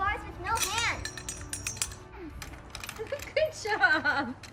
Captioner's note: metal clanking